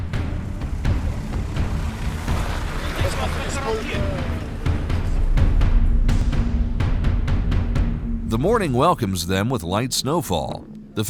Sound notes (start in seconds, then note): 3.0 hunters charrering